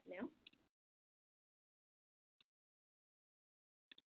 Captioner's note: mouse clicking